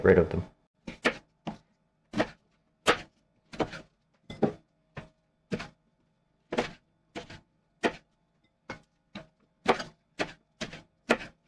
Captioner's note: knife cutting